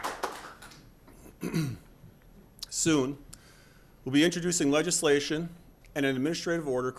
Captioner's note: applause